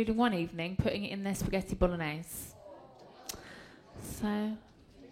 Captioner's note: groans